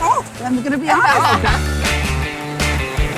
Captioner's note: laughs; surfing music